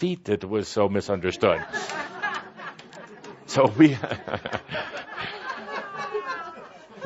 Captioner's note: laughter, Kuthumi chuckling